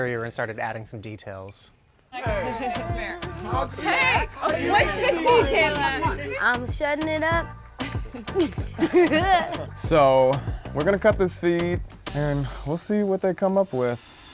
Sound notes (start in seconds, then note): 7.8 chuckling